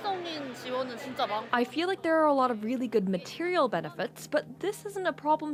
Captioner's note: speaking Alternate Language